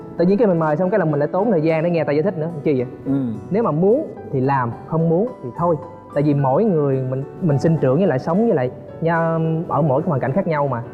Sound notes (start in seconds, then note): none